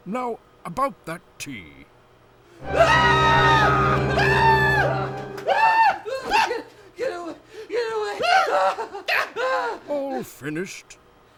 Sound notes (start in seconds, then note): 2.6 screaming